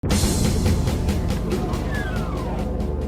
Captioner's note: door opening sound